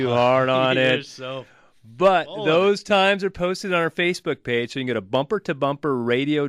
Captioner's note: laughs